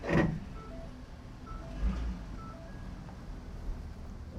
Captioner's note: shift clacking; signal beeping